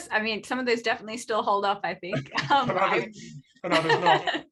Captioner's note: laughter